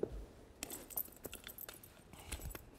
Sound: jangling

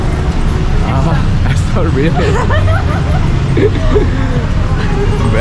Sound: laugh

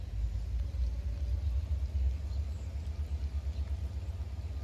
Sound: train engines revving up

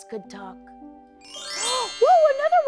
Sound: chimes

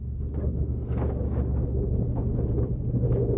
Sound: wind blowing

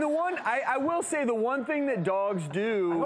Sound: audience laughs

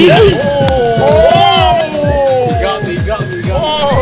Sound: men cheering

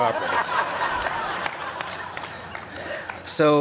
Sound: laughter

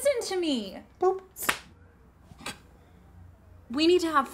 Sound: slapping

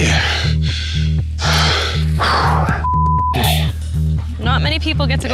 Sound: beep

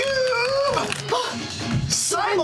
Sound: gasp

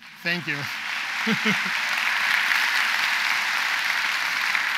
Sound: audience applauds

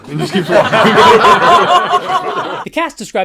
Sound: laughter

